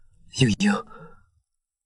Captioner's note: sobs